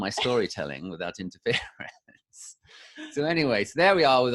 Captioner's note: laughing